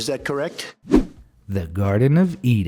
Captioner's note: air whooshing